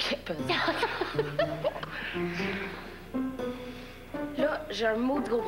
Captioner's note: Rires